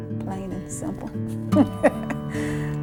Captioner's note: laughs